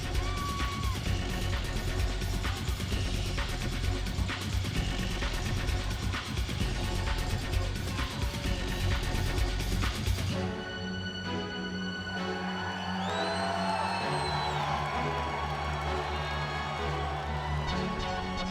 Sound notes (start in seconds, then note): 3.6 upbeat music continues; 11.8 audience cheering